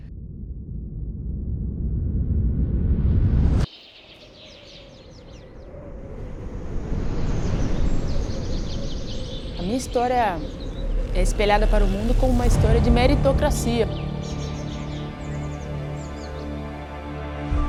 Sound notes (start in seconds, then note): 1.4 anticipatory music; 3.7 nature sounds; 6.9 wind blowing; 14.3 exciting music